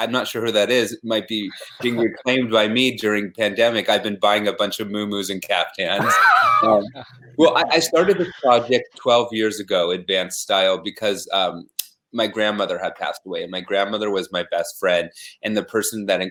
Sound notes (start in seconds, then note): 5.9 laughing